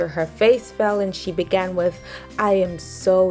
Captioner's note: none